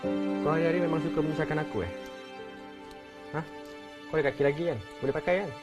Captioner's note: speaking in foreign language